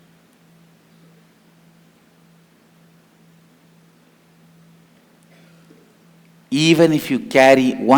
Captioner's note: hindi